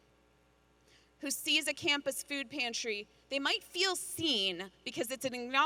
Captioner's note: none